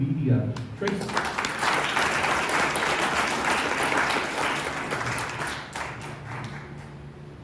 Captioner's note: applause